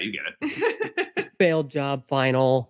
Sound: laughter

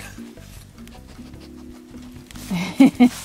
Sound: dog sniffing; laughing

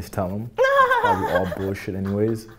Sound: loud laughter

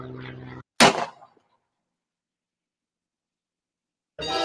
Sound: gunshot

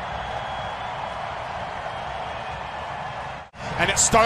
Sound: cheers and applause

